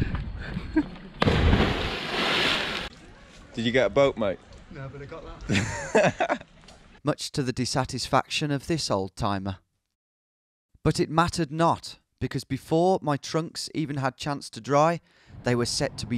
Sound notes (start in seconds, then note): 1.2 splashing; 5.5 laughing